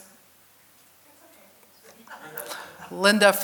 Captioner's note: audience laughing